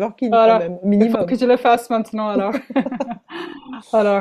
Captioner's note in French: rires